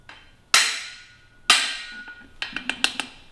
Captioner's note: metallic banging; metallic rattling